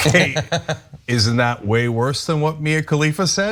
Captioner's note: laugh